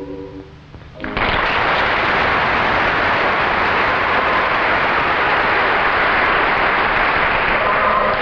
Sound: audience applause

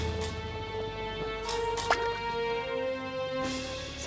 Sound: splashing sound

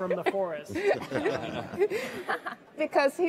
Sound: all laugh

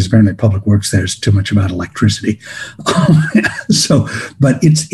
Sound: laughs

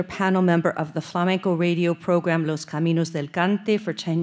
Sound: speaking Spanish

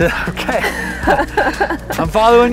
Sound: laugh

